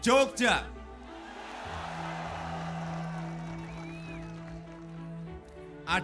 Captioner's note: cheering